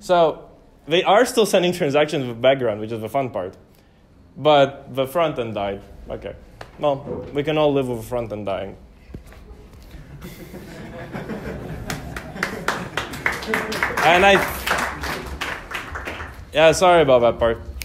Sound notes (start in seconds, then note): 11.8 applause